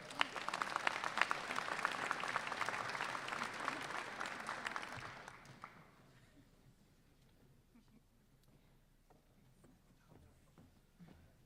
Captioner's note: applause